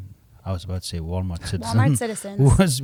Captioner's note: laughs